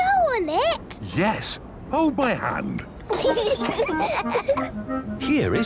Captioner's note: children giggling